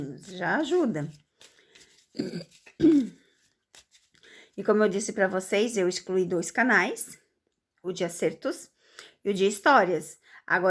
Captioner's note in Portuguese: limpando a garganta